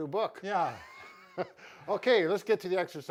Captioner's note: laughing